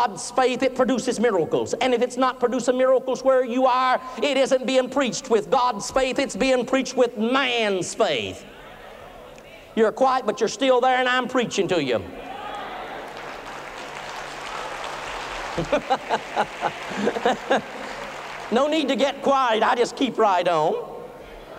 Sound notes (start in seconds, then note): 12.3 cheering and applauding; 15.5 laughter